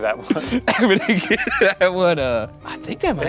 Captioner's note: laughing